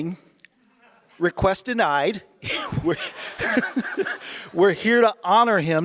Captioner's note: laughs